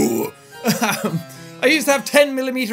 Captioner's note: laughs